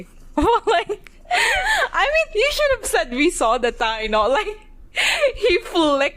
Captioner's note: laughing